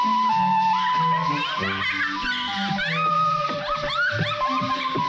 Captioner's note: laughing